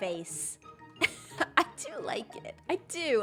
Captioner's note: laughs